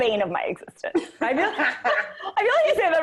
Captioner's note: laughing